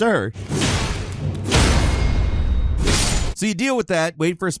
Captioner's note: metal clanging